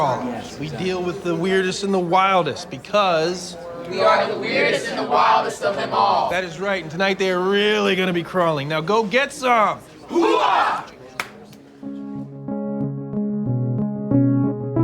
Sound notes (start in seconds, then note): 11.1 claps